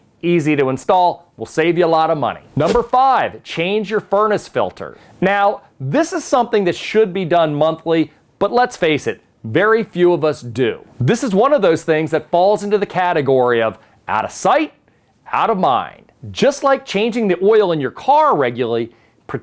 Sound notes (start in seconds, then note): 2.5 letters whoosh